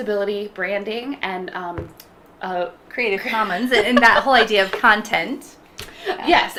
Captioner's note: laughing